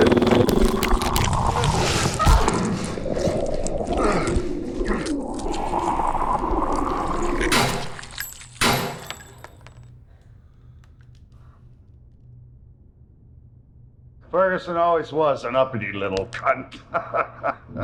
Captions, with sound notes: [creature snarling] [smashing flesh] [creature convulsing] [gunshots] Ferguson always was an uppity little cunt. [laughs]